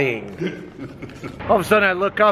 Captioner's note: laughing